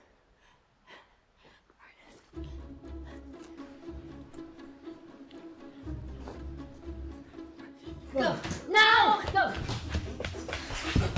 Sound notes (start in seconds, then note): 2.2 Connie pants; 4.5 dramatic music